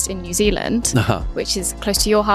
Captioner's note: James chuckling